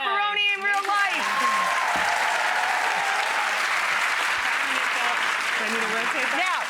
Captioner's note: audience applauds and cheers